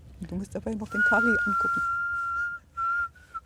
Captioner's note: she whistles